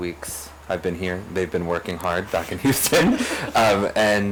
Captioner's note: laughs